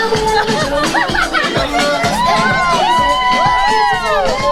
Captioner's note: party goers laughing